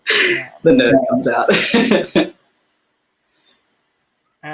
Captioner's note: laughs